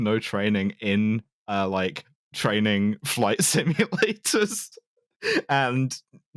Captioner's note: laughing